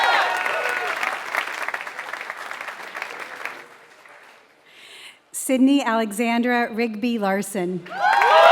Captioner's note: applause; applause